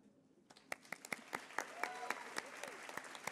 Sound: applause

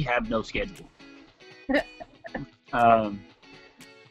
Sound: laughing

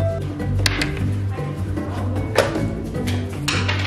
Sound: dice rolls

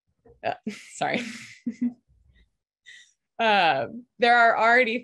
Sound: laughs

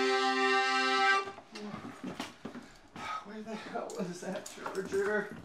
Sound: footsteps

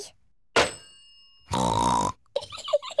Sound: oinks and giggles

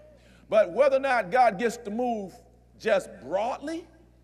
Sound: none

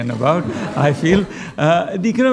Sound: laughter

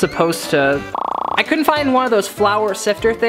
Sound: fast rattling

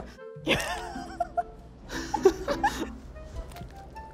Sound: laughing

